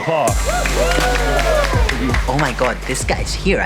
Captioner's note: all cheering